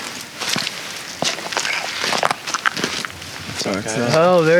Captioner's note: leaves crunch